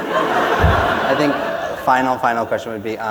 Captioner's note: laughter